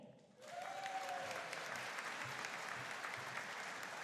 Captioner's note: audience cheering